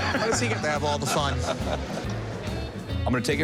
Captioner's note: laughs